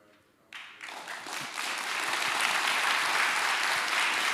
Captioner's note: applause